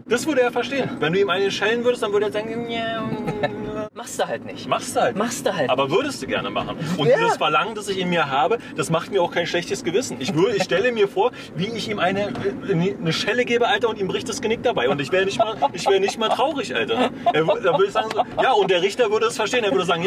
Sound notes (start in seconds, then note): 14.8 laughs